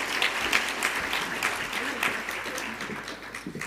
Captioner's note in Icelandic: fagnaðarlæti